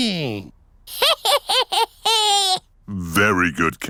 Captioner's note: cackling